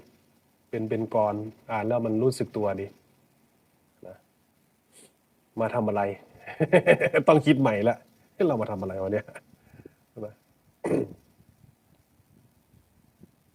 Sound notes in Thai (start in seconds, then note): 4.9 เสียงสูดหายใจ; 6.4 เสียงหัวเราะ